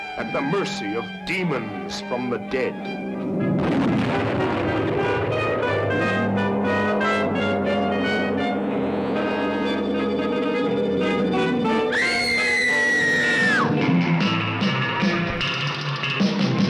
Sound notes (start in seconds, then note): 3.4 explosion; 6.7 monster groaning; 11.9 woman screaming; 14.1 1960s SURF ROCK MUSIC PLAYING